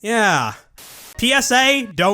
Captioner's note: static